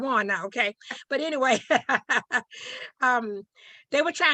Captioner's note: laughing